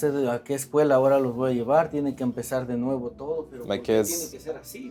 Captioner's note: speaking Spanish